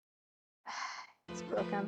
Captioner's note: annoyed sigh